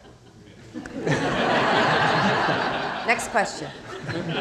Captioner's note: crowd laughing